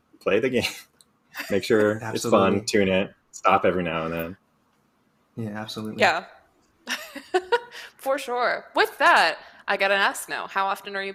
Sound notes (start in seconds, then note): 7.1 laughs